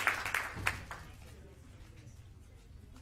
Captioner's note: applause